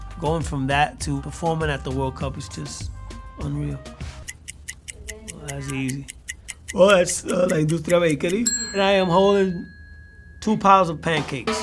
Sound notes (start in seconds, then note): 4.2 ticking